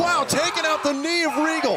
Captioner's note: crowd cheering